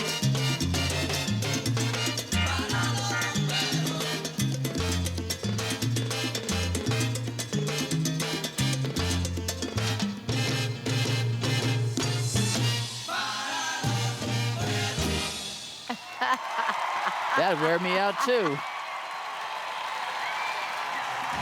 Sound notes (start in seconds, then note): 15.8 laughing